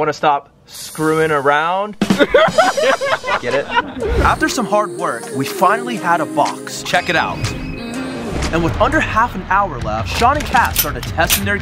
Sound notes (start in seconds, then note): 2.0 laughing